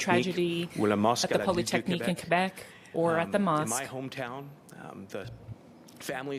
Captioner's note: speaking French